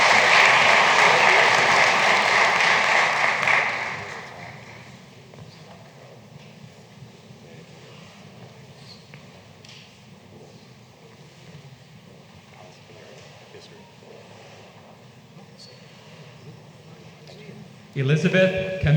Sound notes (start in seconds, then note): 2.9 applause